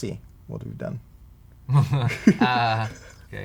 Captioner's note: chuckling